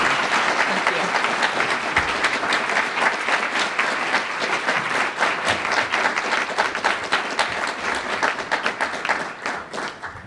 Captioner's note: applause